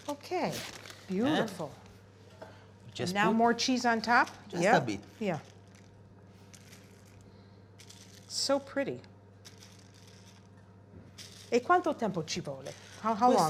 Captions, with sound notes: OK, beautiful. Just now more cheese on top. Yeah? Just a bit. Yeah. So pretty. [speaking italian]